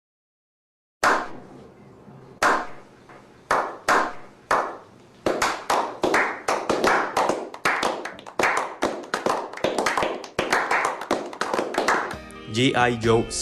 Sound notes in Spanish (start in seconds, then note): 1.0 aplausos